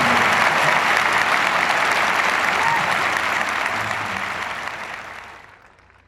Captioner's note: audience cheers and applauds